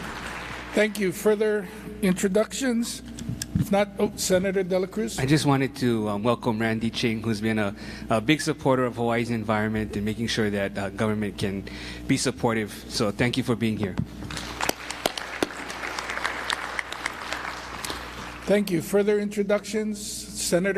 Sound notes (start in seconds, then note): 0.0 applause; 17.6 applause